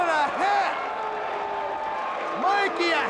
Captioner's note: audience applauds and cheers